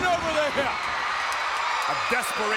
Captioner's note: crowd cheers